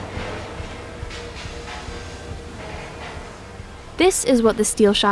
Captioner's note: machinery whirring